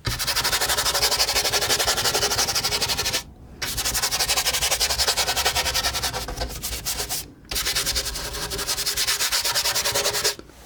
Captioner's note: scratching